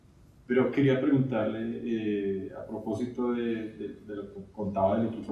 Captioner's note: speaking in Spanish